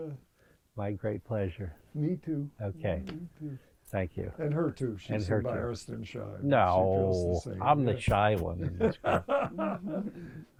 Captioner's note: laughs